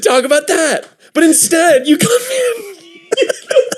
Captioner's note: wheezing